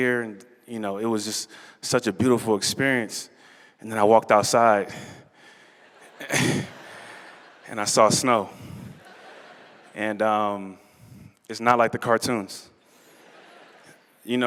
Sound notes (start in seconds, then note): 5.8 laughter